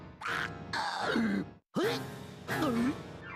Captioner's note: choking